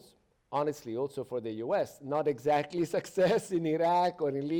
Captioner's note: chuckles